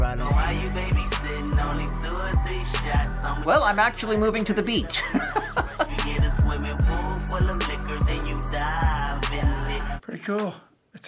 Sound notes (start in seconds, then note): 4.9 laughing